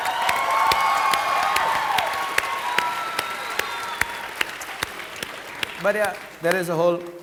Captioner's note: audience cheering and applauding